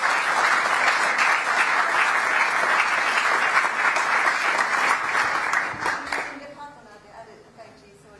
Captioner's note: applause